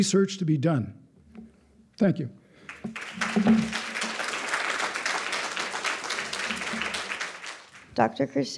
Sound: applause

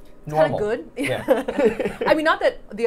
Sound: both laughing

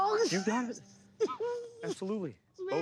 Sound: crying

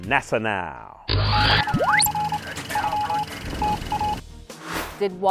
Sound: sound Effects

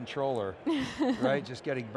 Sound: chuckling

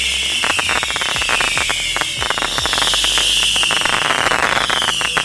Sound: fireworks crackling; fireworks whistling; fireworks crackling; fireworks whistling; fireworks crackling; fireworks whistling

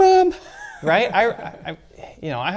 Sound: laughs

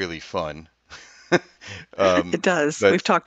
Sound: laughs

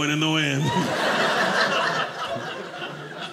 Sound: audience laughing

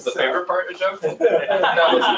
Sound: laughter

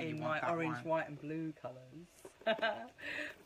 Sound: chuckles

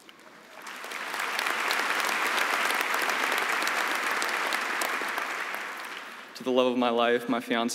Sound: applause

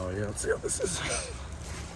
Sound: more Funny Noises

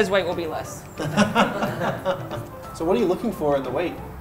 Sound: laughing

